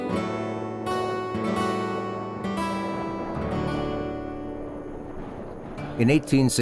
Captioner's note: cold wind sounds